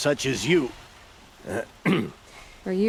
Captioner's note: clears throat